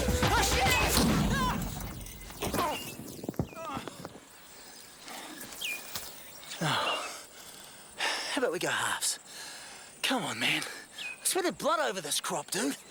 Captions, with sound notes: - Oh shit! (shouts) (explosion rumbles) (sighs) How 'bout we go halves? Come on, man. I sweated blood over this crop, dude.